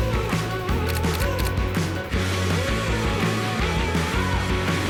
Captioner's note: upbeat energetic music; camera clicks